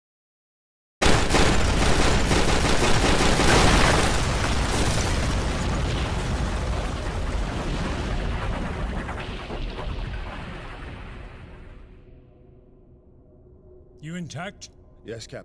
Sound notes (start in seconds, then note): 3.7 falling rocks; 6.1 gunshots